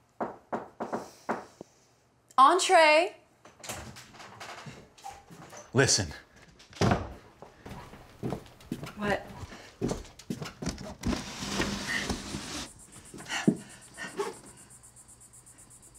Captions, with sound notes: (knocks "Shave and a haircut") -Entrez. (door clicks) -Listen. (door closes) (footsteps) -What? (window slides open, loud Cicada sounds)